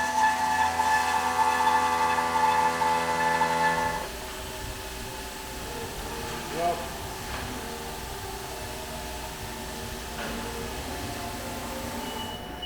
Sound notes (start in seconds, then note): 1.4 mill rumbling; 5.0 machinery whirring; 8.7 machinery whirring; 11.9 machinery beeping